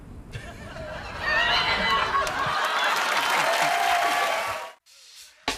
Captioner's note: laughter